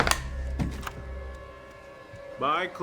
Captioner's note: door clicks